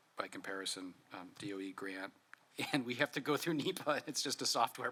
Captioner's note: laughs